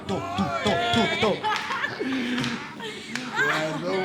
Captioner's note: laughing drunk